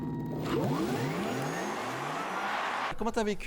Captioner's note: electric motor sound